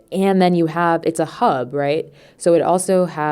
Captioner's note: none